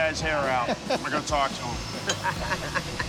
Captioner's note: all chuckling; laughter